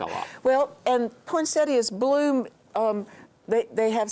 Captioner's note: laughs